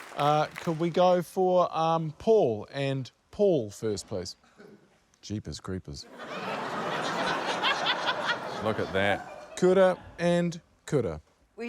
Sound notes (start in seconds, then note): 6.1 laughter